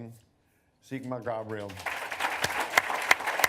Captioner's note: applause